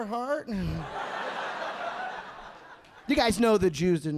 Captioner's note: audience laughing